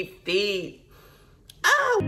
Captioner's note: sniffs